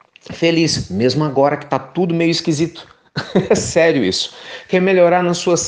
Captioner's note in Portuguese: risos